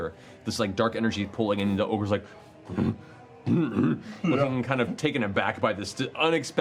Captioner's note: confused grunts